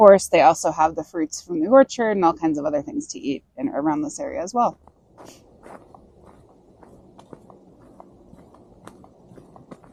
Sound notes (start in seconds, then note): 4.7 bridge creaking; 6.3 raven calling